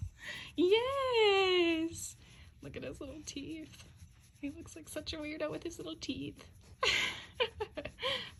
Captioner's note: laughs